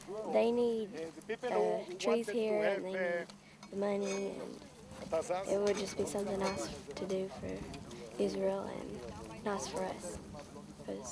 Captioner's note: speaking in hebrew